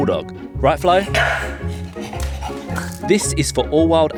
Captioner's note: barking